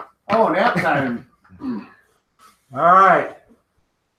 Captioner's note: laughs